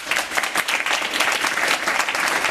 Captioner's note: applause